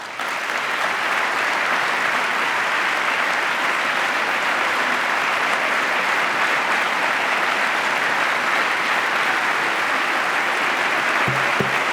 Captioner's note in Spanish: aplauso